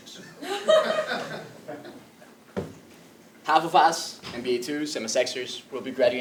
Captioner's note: laugh